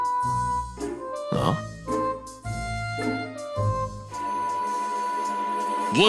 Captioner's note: yawn